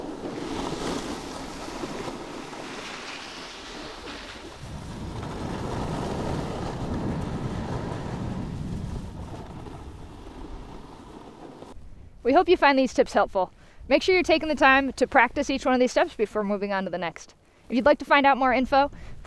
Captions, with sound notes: (snow crunching) We hope you find these tips helpful. Make sure you're taking the time to practice each one of these steps before moving onto the next. If you'd like to find out more info,